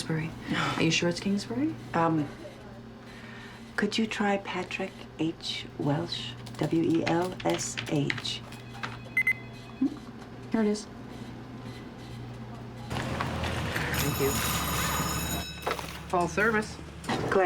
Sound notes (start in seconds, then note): 9.1 beep; 13.0 bell rings